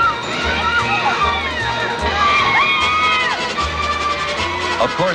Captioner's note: guests squealing and screaming